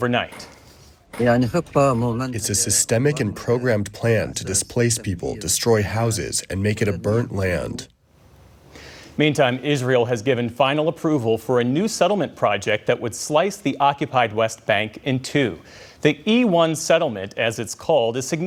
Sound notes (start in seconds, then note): 2.7 through translator